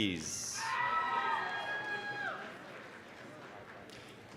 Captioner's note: applause, cheering